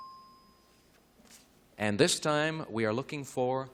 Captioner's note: ding